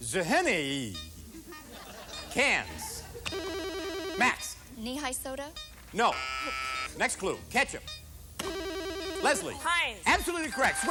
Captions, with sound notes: ZHNEI. Cans. [rings] Max. - Knee-high soda. - No. [buzzes] Next clue, ketchup. [rings] Leslie. - Heinz. - Absolutely correct.